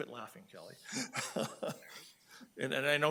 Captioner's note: laughing